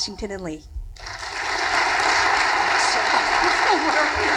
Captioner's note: audience applauding; applause drowns out murmuring